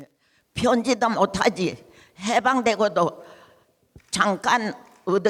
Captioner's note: speaking in foreign language